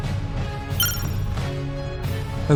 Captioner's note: beep